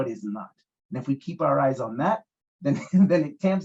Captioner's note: laughs